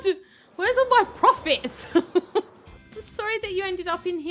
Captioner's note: laughs